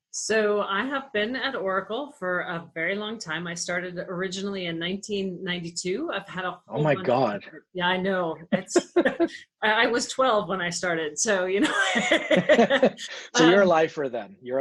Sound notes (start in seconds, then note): 11.5 laughter